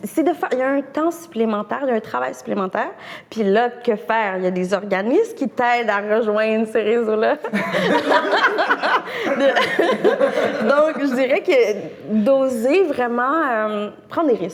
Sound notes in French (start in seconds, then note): 10.2 rires